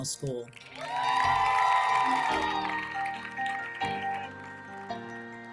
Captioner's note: audience applauding; audience cheering; bright music continues